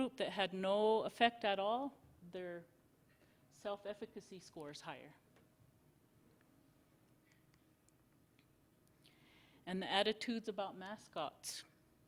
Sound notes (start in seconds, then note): 5.3 silence